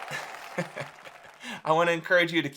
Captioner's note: giggles